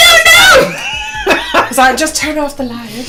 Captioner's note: laughter